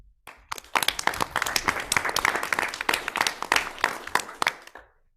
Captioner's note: audience clapping